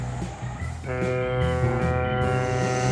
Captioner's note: horn blows